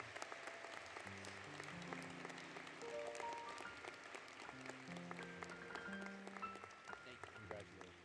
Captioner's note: applause; applause, Music